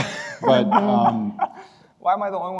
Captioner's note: laughing